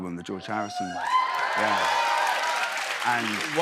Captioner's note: cheers and applause